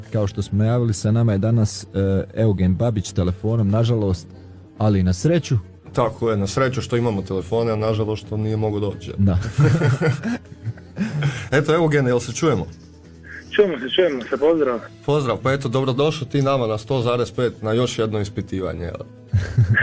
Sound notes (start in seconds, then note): 9.4 laughter; 19.3 laughter